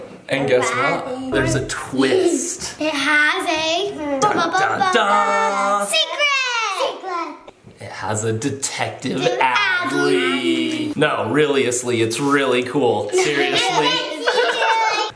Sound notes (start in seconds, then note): 4.3 humming